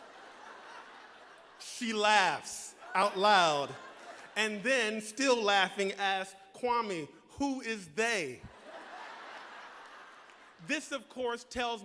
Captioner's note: laughter